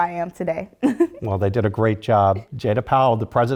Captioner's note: laugh